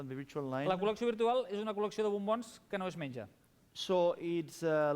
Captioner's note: non-english speech